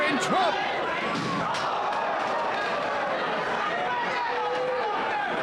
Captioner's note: audience gasping